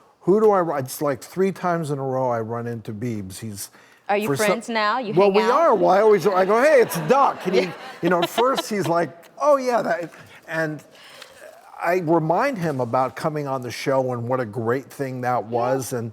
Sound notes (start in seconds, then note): 5.8 laughing